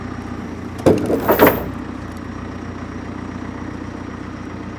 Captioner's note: wood clangs